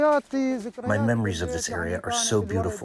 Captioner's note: through translator